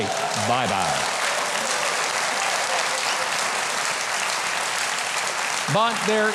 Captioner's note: audience cheering and clapping